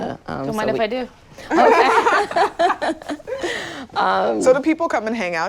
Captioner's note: laughing